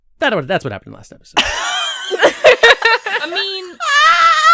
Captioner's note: laughter